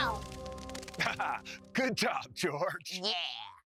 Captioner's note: chuckles